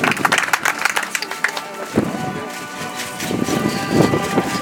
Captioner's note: audience applauds